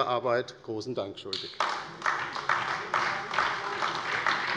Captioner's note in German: Beifall bei der LINKEN und bei Abgeordneten des BÜNDNISSES 90/DIE GRÜNEN